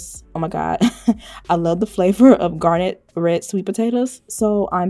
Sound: chuckles

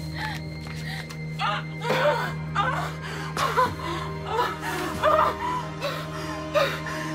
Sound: groaning; panting

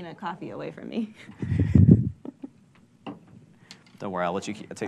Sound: laughing

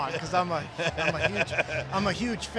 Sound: laughs

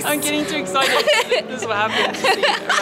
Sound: laughing

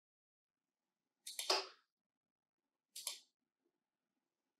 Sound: mouse clicking

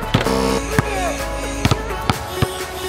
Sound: buzzing

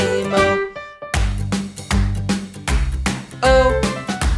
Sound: clap

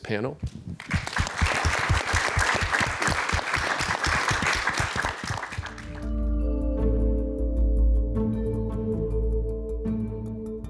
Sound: applause

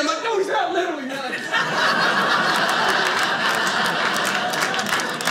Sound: audience laughing

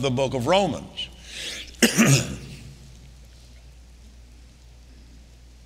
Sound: Kenneth coughing

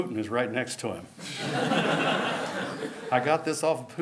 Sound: laughter

